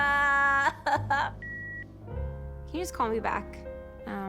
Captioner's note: line beeps